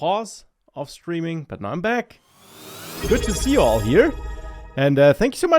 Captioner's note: chiming sound